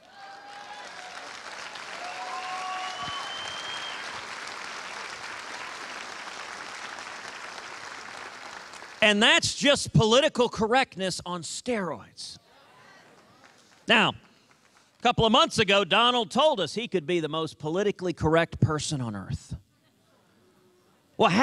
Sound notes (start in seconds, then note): 5.2 cheers and applause